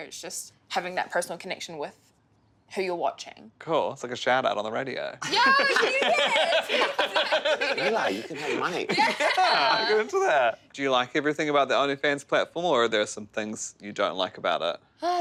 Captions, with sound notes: It's just having that personal connection with who you're watching. - Cool. It's like a shout out on the radio. (laughing) - Yeah, you get it! Exactly! - Eli, you can make money. - Yeah, I'll get into that. Do you like everything about the OnlyFans platform or are there are some things you don't like about it?